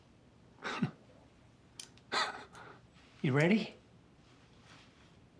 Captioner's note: Terry laughing lightly